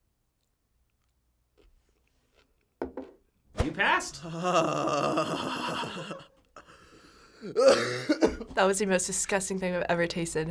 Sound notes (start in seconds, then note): 4.0 groaning; 7.3 coughing